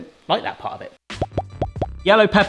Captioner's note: peppers popping